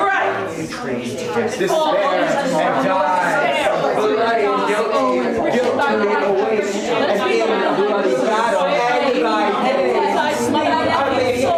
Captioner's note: cacophony of ghost curses repeating loudly